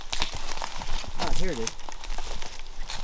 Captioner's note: footsteps crunching